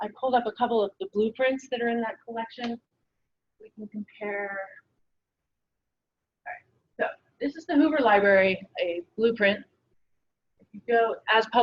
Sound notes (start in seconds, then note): none